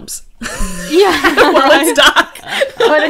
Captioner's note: everyone laughs